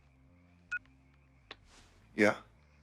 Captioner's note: cell phone beeps